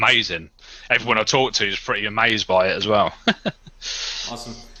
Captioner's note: laughs